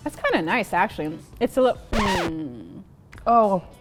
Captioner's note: disc stops